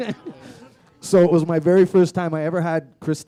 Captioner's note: laughter